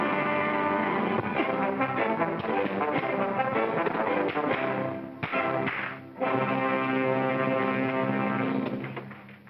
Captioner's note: circus music; punching sounds